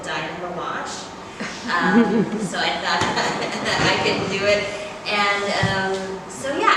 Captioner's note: laughs